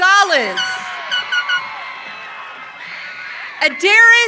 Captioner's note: audience cheering